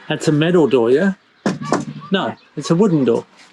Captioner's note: knocks on door